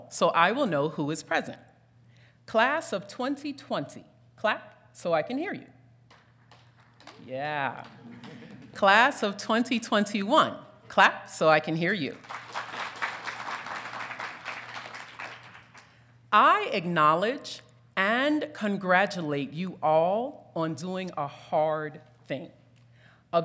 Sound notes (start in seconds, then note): 6.2 audience applauding; 7.6 audience titters; 12.2 audience applauding